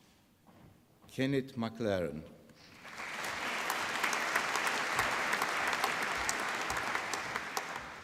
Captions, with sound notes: Kenneth McLaren. (APPLAUSE)